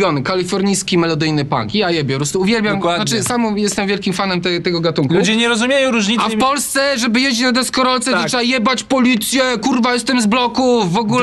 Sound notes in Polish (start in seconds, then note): none